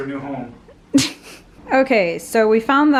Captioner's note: laughs